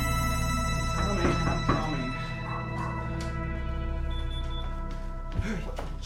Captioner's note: knocking; gasps